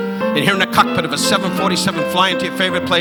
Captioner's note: audience laughing